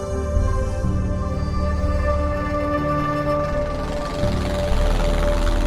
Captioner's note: jet engine rumbling